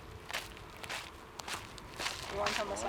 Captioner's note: feet tapping